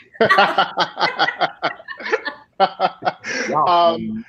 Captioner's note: all laughing